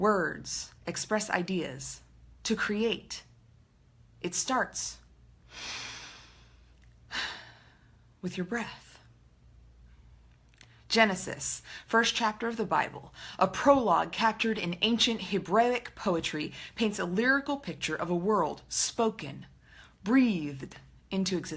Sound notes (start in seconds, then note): 5.5 inhale, exhale